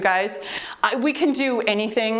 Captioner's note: timer beeps